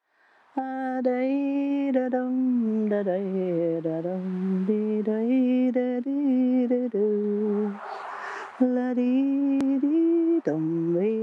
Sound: humming

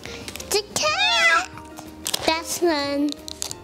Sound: crinkles; meows

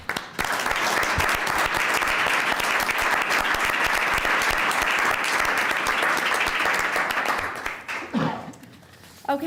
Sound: applause

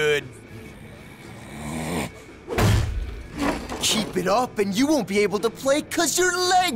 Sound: growls

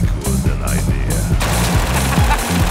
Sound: gunfire

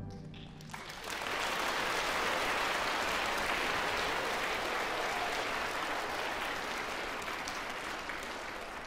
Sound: applause

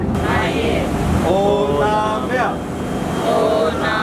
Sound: foreign language

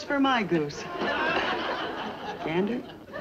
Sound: audience laughs

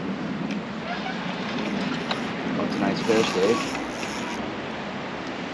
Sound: reel cranking

